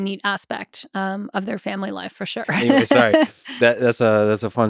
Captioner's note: chuckles